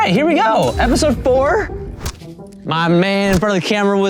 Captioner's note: fist thumping